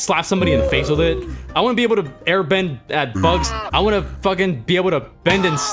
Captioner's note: butterfly cries